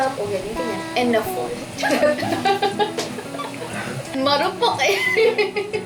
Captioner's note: laughs